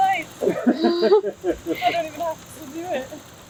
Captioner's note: laughing